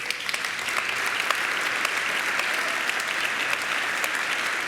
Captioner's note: audience applauding